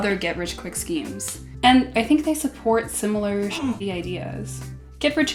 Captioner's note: grunt